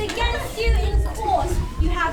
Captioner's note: police sirens